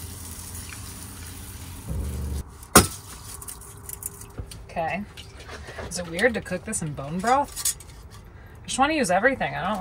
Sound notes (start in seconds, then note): 0.1 water sloshing; 1.9 metal clanging